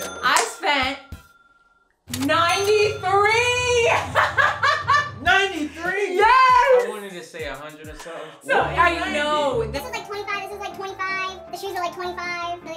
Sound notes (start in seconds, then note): 0.0 ka-ching; 2.1 ka-ching; 4.2 laughing